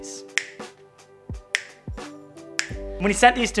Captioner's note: fingers snapping